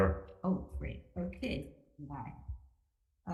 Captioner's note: none